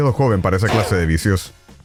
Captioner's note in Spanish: boink